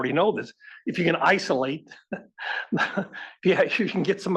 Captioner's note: laugh